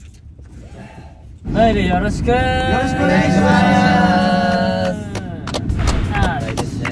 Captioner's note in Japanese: 拍手